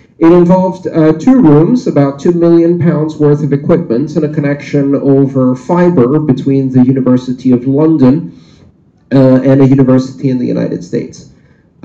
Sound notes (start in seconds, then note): none